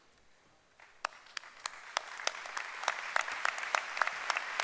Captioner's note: applause